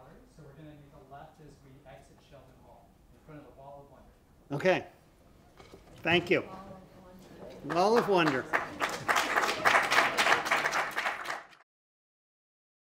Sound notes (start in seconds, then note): 7.6 applause